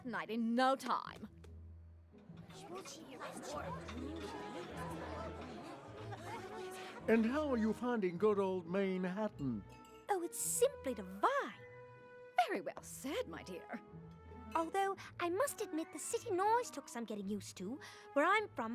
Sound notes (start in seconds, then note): 10.8 posh accent